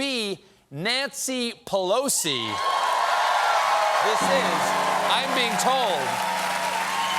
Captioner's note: cheers and applause